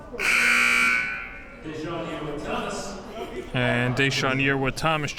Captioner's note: buzzer blares; whistle blows